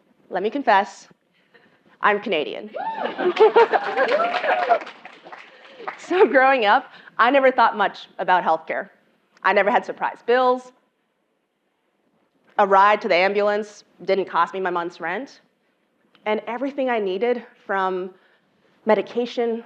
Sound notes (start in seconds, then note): 2.8 laugh; 3.0 applause